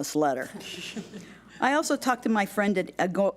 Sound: laughing

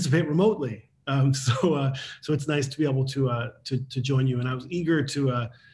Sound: laughs

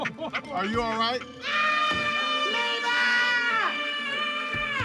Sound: screaming

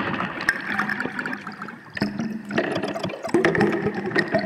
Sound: water rippling

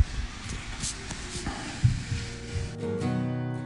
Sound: rustling

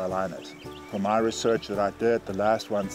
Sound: birds chirp

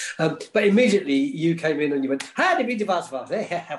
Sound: makes fun rhythmic noises

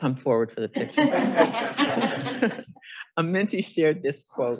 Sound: audience laughing

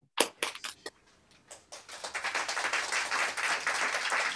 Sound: applause

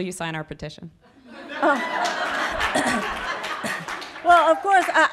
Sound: audience laughing

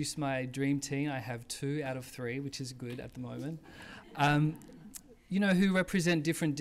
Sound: laughs

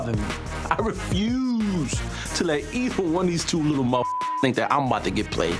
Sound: beep

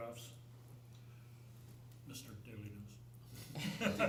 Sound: laughter

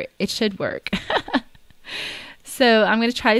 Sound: laughs

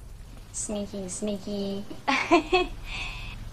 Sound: laughs

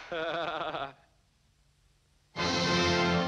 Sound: laughs

